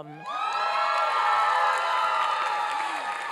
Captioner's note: applause and cheering